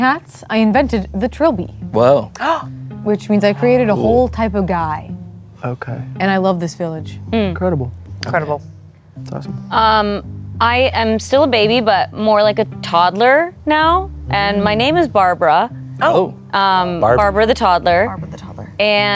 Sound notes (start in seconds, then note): 2.7 gasps